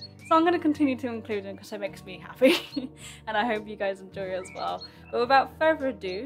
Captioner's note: laughs